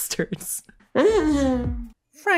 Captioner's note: whimpers